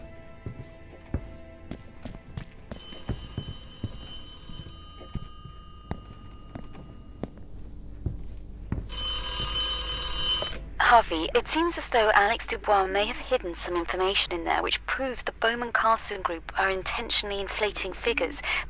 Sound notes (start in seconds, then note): 0.2 footsteps; 2.7 distant phone ringing; 8.9 phone ringing louder